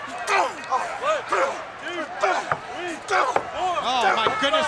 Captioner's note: wrestlers grunting